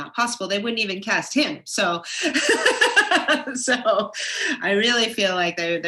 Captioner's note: laughs